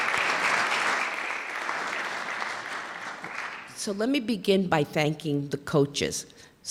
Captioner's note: clapping